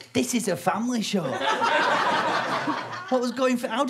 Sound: audience laughter

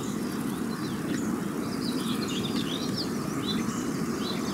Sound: sounds of birds singing

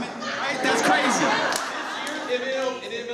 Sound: audience laughs

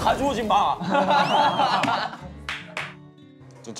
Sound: laughing

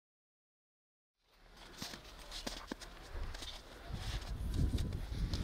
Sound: footsteps on snow

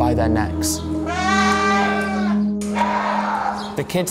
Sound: goats screaming

